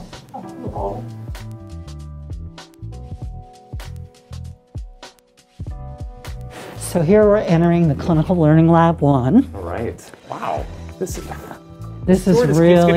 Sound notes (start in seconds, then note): 0.3 upbeat music; 12.6 chuckles